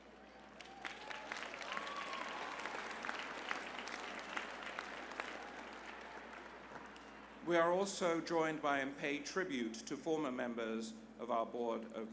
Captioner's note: applause